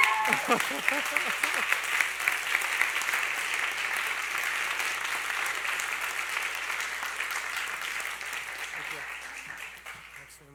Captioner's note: applause